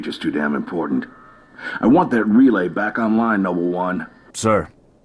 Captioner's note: radio